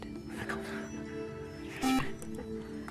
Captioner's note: beep